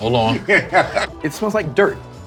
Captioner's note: laughing